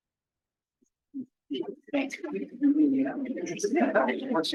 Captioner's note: crowd chattering